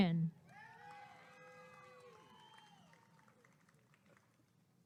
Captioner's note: applause and cheering